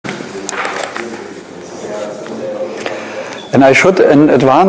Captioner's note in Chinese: 观众喋喋不休